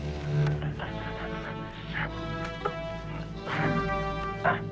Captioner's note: Beast panting; both grunting